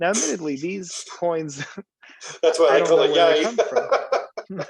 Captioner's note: laughing; laugh